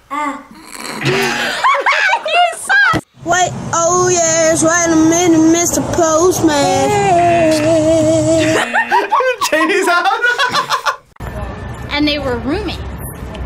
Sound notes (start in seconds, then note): 1.1 all laugh; 6.8 old man vocalizes; 8.7 laughs; 11.3 laughs